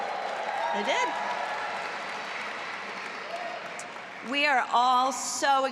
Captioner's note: audience applauding and cheering